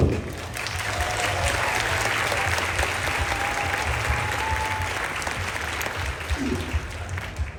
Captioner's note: applause, Cheering